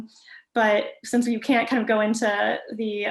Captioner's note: none